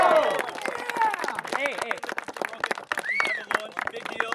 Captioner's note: cheering